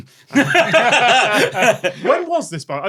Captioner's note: laugh